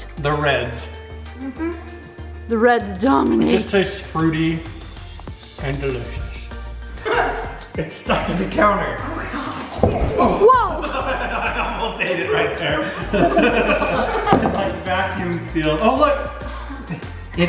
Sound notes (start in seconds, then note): 7.0 laughing; 9.7 banging; 13.2 group laughing